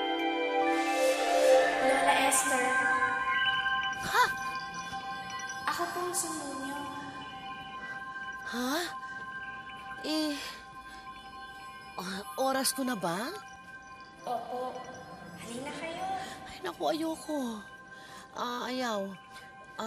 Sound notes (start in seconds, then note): 3.9 gasps